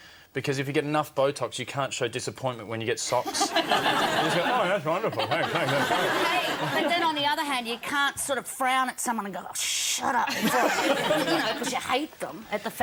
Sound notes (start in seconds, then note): 3.2 audience laughs; 10.3 audience laughs